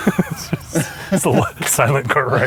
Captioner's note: laughs